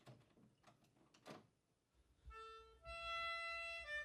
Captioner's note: door clicks open; melodica music